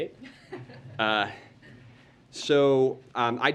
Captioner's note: laughter